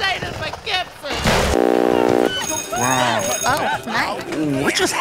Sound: soundbite of static; sounds of commotion continue; soundbite of set bell

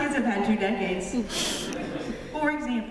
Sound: laughter

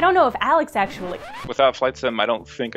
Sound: record scratch

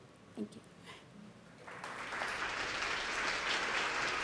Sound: audience applauds

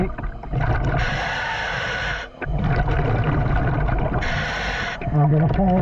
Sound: water bubbling; scuba breathing

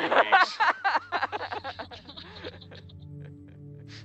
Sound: loud laughing

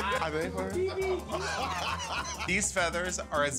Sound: laughter

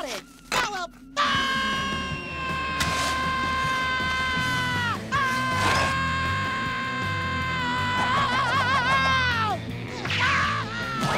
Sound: screaming

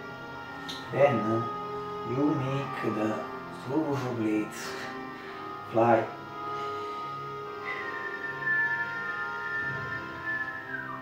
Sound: whistle

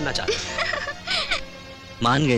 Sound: laughing

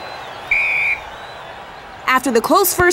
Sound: whistle blows

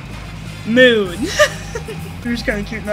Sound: giggles

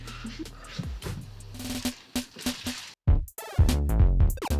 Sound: pair laughs; upbeat cheery music

